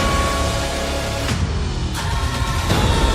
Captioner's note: bell tolls